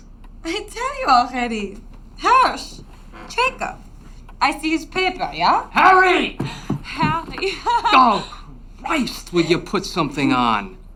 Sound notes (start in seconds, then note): 6.6 woman laughs